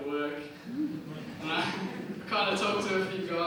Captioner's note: audience chuckles